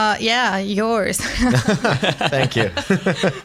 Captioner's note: laughter